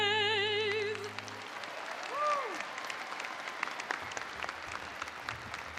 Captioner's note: attendees applauding